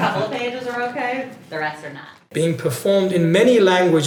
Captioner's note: laughter